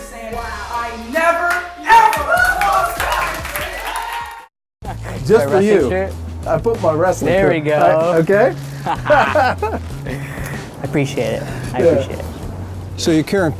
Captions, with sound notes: HERE SAYING, I NEVER, EVER LOST AT IOWA STATE. >>> JUST FOR YOU. I PUT MY RESTING HAND. >> OKAY. ( laughing ) >> I APPRECIATE IT. APPRECIATE IT.